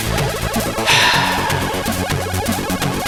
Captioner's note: sigh